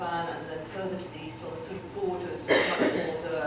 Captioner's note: audience member coughs